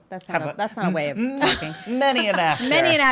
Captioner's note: laughing